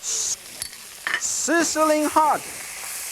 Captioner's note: pan clinking